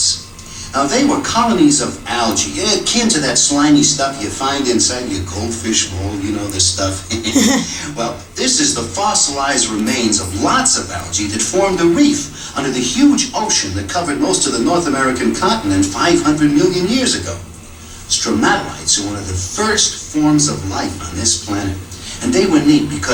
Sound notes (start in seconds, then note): 7.3 laughter